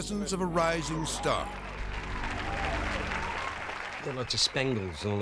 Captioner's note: audience claps and cheers